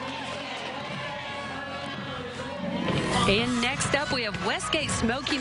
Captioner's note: band music; cheers; background music